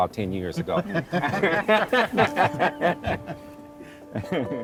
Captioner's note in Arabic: يضحك